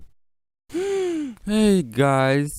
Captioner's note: gasps